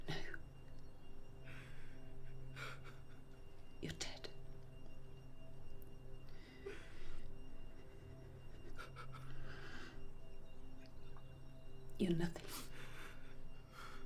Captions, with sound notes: No. You're dead. (soft dramatic music continues) (man continues crying softly) You're nothing.